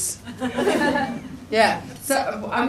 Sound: people laugh

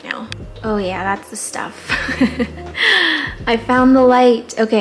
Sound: laughs

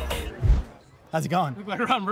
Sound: air whooshes

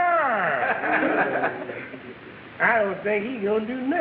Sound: audience laughing

